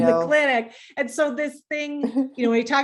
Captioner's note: laughing